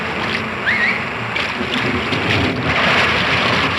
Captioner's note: whistles